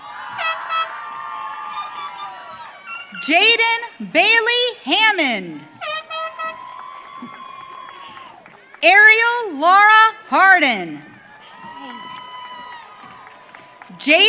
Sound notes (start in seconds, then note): 0.0 audience cheering; 10.9 audience cheering